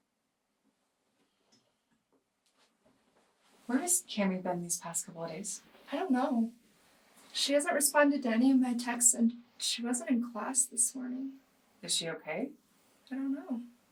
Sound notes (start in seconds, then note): none